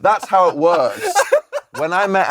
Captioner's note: laughs